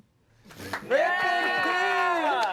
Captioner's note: everyone applauds